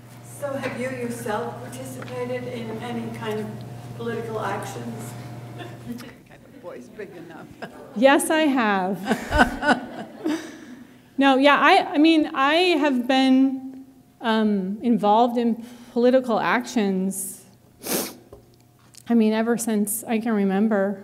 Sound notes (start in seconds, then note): 8.9 laughter